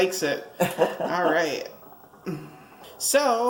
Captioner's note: laughs